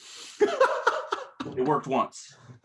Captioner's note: laughs